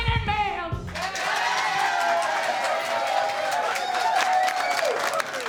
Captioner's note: cheering and applause